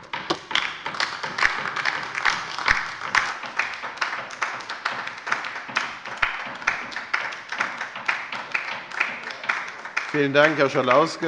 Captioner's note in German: Beifall bei der LINKEN